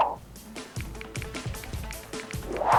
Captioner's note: phone clicking sound